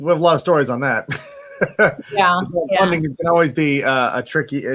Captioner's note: laughs